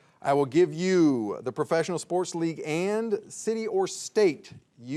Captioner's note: none